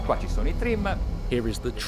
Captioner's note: boat engine rumbling